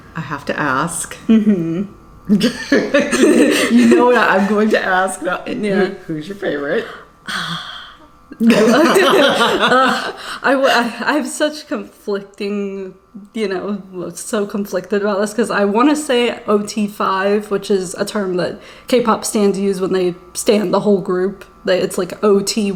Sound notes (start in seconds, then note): 8.3 laughing